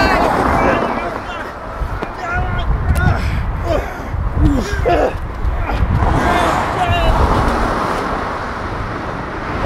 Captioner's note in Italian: grugniti e auto che passano